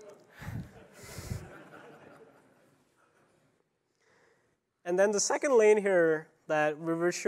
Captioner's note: laughter